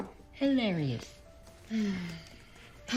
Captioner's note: sighs